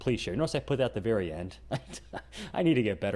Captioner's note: laughing